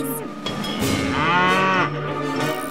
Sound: mooing

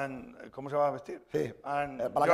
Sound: speaking spanish

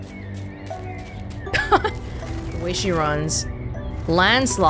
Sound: chuckles

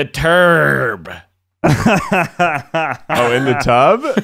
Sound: laughing

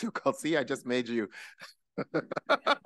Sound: laughing

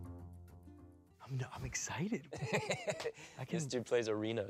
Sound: laughs

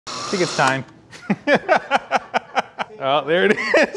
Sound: laughing

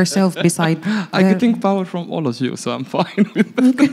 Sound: laughing; laughing; laughs

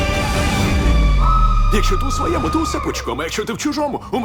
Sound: screaming; both scream

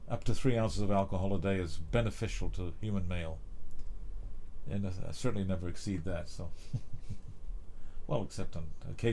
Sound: laughter

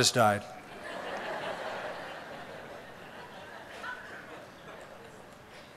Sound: laughter

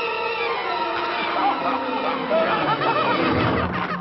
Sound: laughing

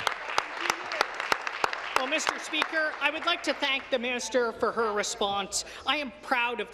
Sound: applause

